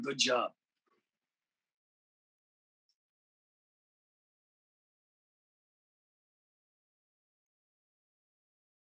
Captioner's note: audio muted